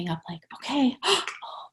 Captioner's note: gasps